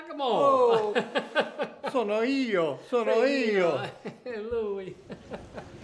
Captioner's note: speaks in foreign language; laughs; laughs